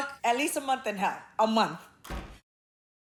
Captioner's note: door thudding